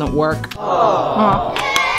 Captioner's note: crowd; cheering